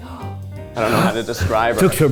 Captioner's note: gasps; Cheech gasps dramatically